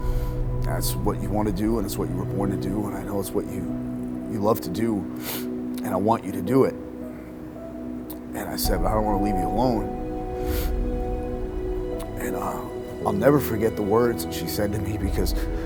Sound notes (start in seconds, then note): 5.2 sniffling; 6.9 soft piano music playing; 10.4 sniffling; 11.3 soft piano music playing